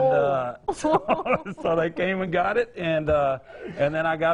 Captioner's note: laughing